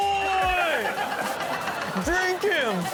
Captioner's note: all laughing